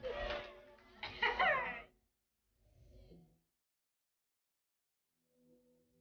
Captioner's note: chuckles